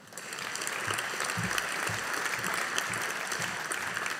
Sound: audience applauding

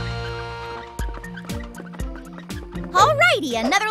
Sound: wheels squeaking

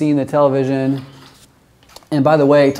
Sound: camera shutters

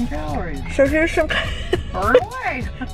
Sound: laughs

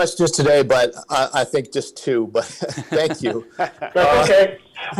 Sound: laughs

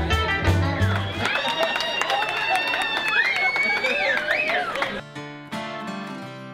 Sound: applauding; cheering; guitar music

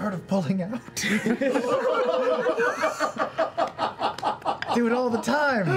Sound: laughter

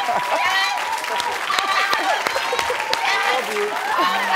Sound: audience applauding

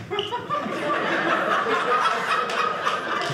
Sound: audience laughing

